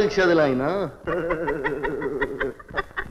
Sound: laughing

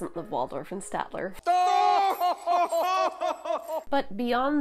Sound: old man Muppet laughter

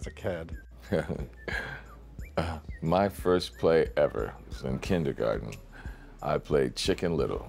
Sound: laughs

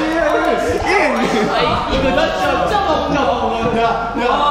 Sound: laughter courtesy

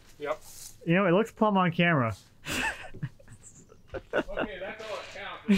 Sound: chuckles

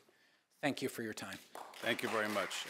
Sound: applause

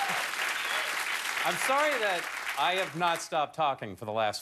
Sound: cheers and applause

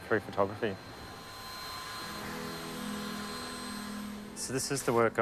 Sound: dryer whirring

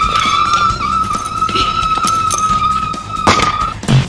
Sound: screaming

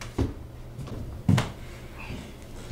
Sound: slap

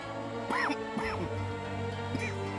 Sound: Öksürme sesi

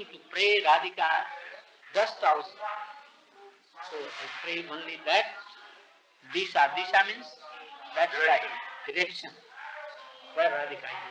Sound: Hindi

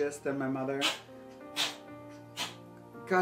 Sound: cat sneezing repeatedly

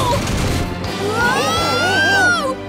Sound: screaming

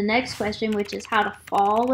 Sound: keyboard clicking

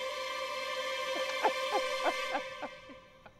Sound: giggling

